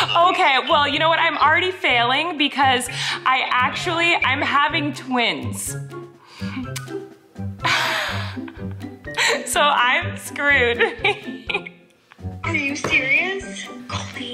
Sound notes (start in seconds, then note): 7.7 Colleen laughs